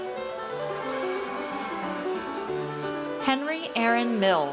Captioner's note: audience cheers